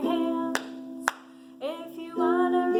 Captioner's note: someone claps